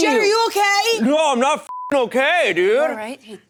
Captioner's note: beep